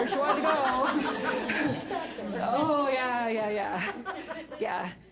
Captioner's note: all laugh